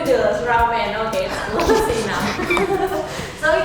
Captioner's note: laugh